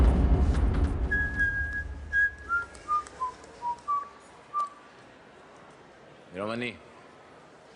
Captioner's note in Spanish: Silbidos